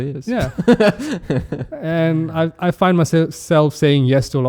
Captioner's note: laughs